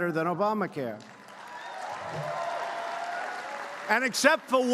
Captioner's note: applause